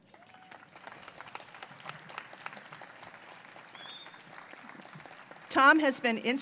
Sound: applause

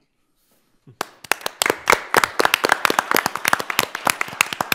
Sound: all applauding

